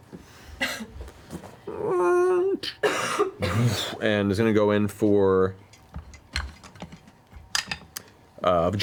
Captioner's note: gasping for breath; metal grinding and a heavy force swinging